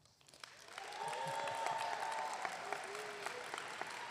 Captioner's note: audience applauding